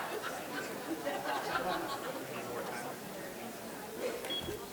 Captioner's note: audience laughing